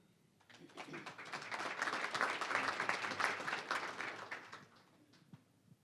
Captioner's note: applause